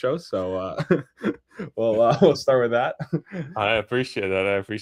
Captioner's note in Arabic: ضحك